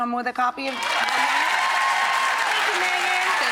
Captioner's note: audience cheering